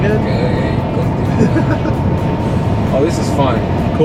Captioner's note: laughter